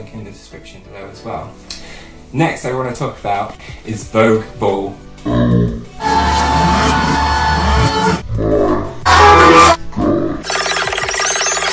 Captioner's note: high pitch